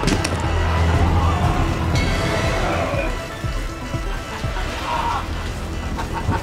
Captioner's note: Jim screaming; blow thuds; suspenseful music continues; Jim groaning; laughing